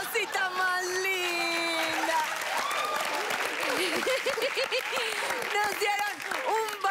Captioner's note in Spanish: Risas; Aplausos; Risas